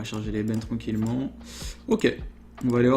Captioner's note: inhale